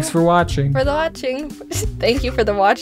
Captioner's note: lols